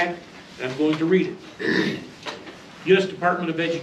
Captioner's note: clears throat; reading from paper